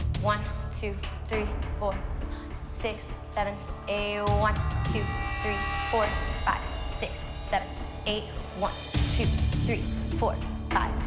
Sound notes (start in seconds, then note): none